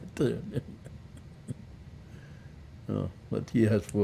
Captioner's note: laughing